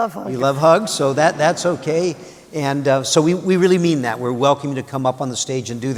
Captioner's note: laughter